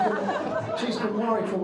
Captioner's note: crowd laughing